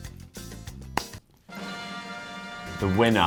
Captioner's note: popping